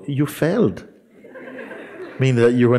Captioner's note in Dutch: gelach